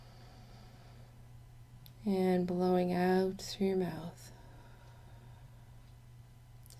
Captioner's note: inhale; exhale